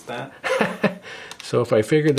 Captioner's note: laughs